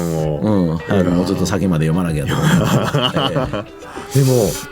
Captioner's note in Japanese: 笑い